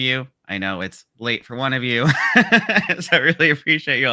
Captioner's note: laughs